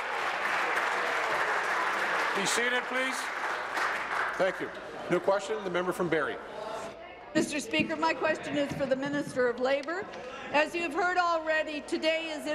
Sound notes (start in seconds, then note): 0.0 applause